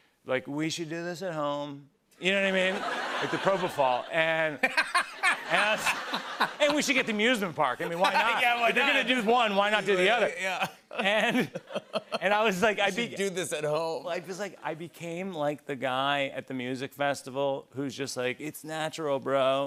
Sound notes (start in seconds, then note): 4.5 laughs